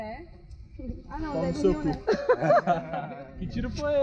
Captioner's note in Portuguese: risos